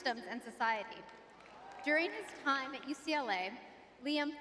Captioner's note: audience cheering